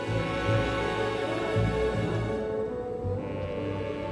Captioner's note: wind howling